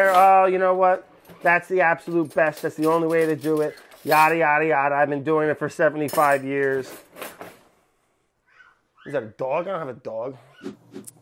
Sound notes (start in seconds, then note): 8.5 child squeaking